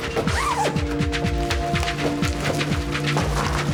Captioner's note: zipper rasping; suspenseful music